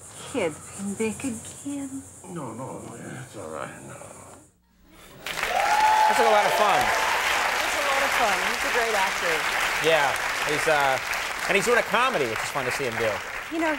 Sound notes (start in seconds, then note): 5.1 audience cheering